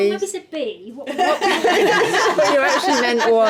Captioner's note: laughing